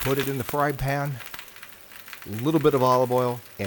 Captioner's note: food sizzling